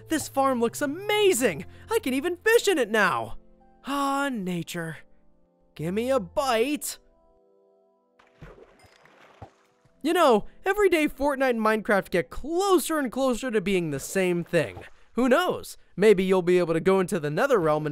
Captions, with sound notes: This farm looks amazing! I can even fish in it now. Ah, nature. Gimme a bite! (splashes) You know, every day "Fortnite" and "Minecraft" get closer and closer to being the same thing. Who knows, maybe you'll be able to go into the Nether realm